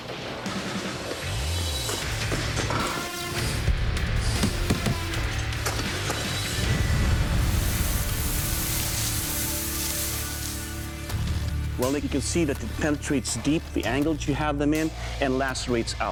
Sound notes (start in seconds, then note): 4.3 thudding